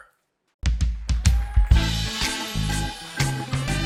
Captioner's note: cheers and applause